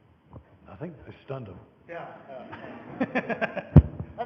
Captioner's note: laughing